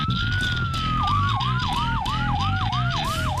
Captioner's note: police sirens blaring